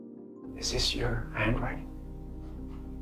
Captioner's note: voiceover